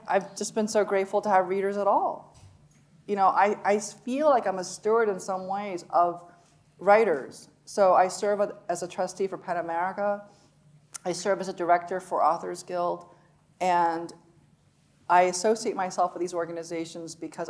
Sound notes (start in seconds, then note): none